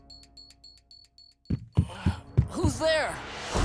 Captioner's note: knocking